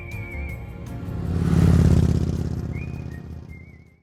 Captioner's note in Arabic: صوت دوران المحرك